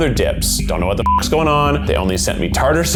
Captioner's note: ominous music; beep